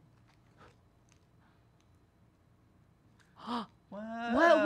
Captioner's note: breath puffs; gasps